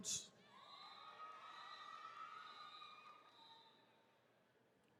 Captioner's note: attendees cheering